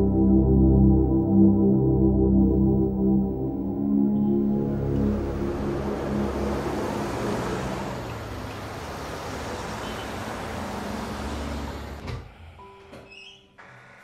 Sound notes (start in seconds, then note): 4.1 trafic noise; 12.8 bed room door opens